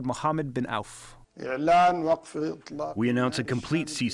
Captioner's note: through translator